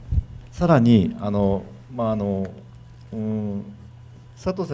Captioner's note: speaking foreign language